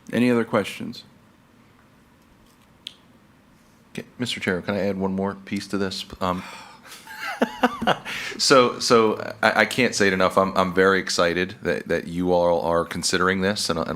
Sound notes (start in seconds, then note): 6.4 sighs; 6.8 laughs